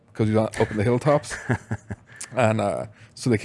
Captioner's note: laughs